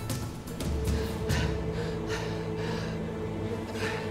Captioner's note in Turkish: Nefes sesi